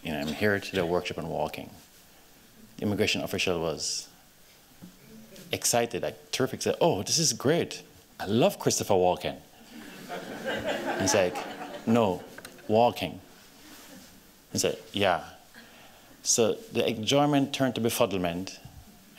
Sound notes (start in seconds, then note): 9.7 laughs